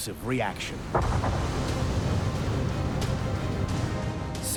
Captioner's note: explosion echoing